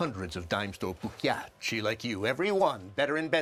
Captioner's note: foreign language